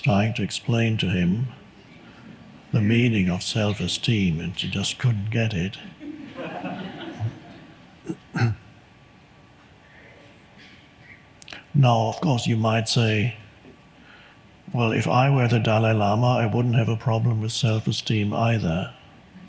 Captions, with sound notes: trying to explain to him the meaning of self-esteem and he just couldn't get it. (audience laughs) Now, of course, you might say, "Well, if I were the Dalai Lama, "I wouldn't have a problem with self-esteem either."